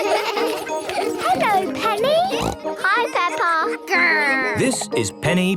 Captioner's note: laughter; snorting